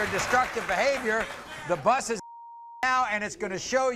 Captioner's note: beep